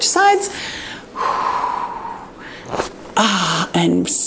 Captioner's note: exhales